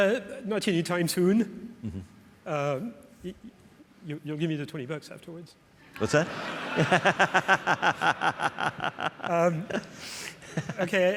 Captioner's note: laughs